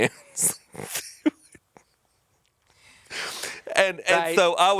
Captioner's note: chuckling